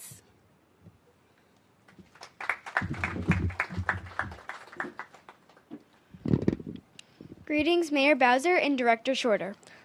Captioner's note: applause